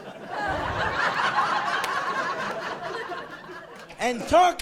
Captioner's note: laughing